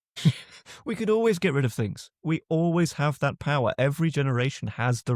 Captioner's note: chuckles